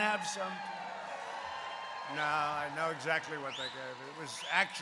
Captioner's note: applause